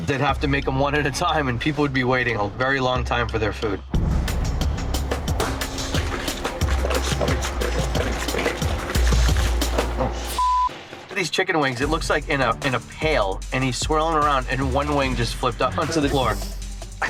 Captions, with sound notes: - They'd have to make 'em one at a time and people would be waiting a very long time for their food. (dramatic instrumental music) (beep) These chicken wings, it looks like in a pail and he's swirling around, and one wing just flipped up onto the floor.